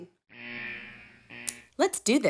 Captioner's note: alarm sounds